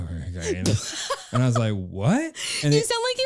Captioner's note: laughing